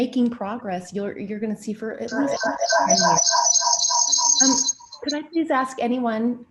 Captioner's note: strange loud whirring noise